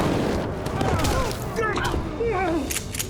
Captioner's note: rifle shot fired; thud, groans; guns click, man writhes on ground